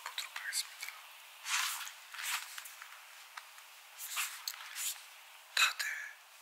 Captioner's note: sound of page getting flipped